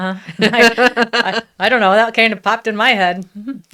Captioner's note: laughs